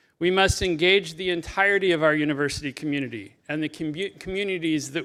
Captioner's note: none